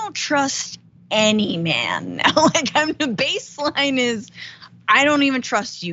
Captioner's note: laugh